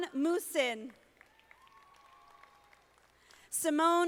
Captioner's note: audience applauding